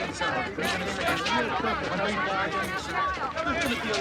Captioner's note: reporters clamoring